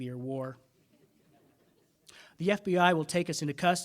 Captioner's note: audience laughing